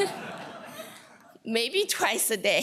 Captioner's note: laughter